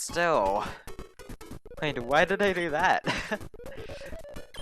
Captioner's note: laughs